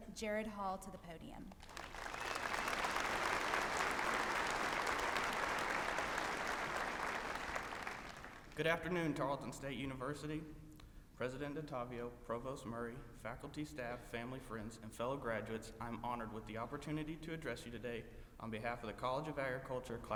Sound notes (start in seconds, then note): 1.5 applause